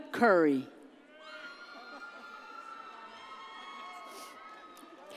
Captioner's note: audience cheers